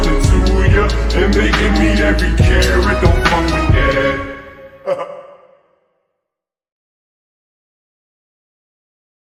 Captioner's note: ha ha